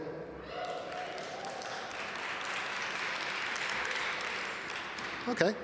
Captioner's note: audience applaud